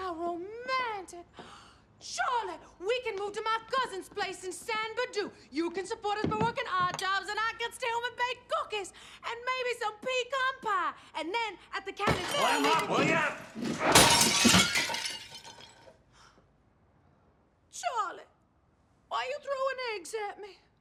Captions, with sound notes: romantic. Charlie! We can move to my cousin's place in San Berdoo. You can support us by workin' odd jobs and I can stay home and bake cookies. And maybe some pecan pie! And then at the county fair we can- Clam up will ya? (GRUNTS) (GASPS) Charlie why are you throwin' eggs at me?